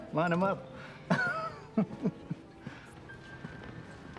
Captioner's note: laughs